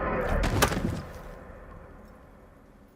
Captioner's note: body thuds